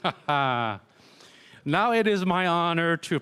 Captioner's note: laughter